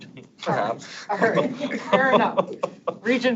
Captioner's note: laughs